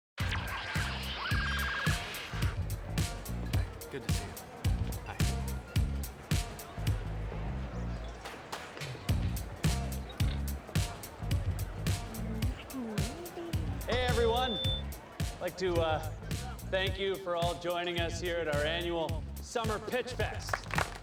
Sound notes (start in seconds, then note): 0.2 theme music plays; 6.3 party buzzing with chatter